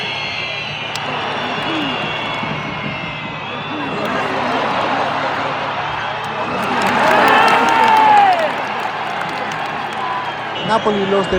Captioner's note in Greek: Χειροκρότημα